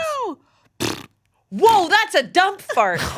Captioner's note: imitates farting